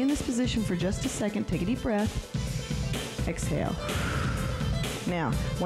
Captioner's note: breath hisses